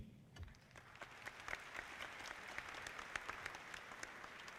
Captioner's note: audience clapping